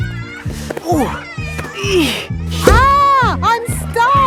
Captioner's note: grunting